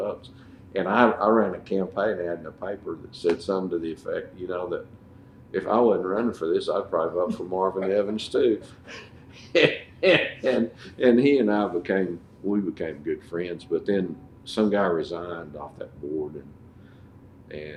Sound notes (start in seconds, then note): 9.3 laughter